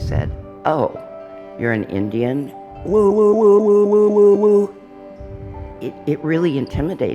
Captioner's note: makes a stereotypical woo, woo, woo noise